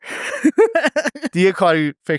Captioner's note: laughs